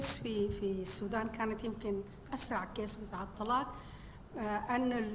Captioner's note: speaking foreign language